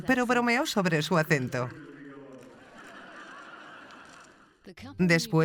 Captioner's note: crowd laughs